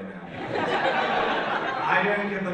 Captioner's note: audience laughs